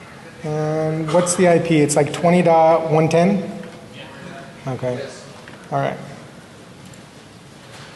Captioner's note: off mic